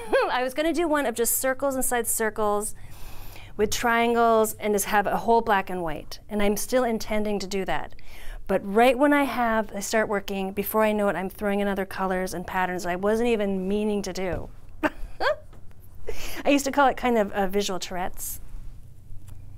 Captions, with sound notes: I was going to do one of just circles inside circles with triangles and just have a whole black and white. And I'm still intending to do that. But right when I have, I start working, before I know it, I'm throwing in other colors and patterns I wasn't even meaning to do. [laughing] I used to call it a kind of a visual Tourette's.